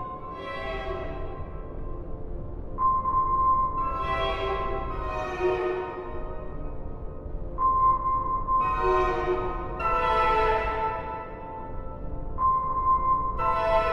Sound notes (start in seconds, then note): none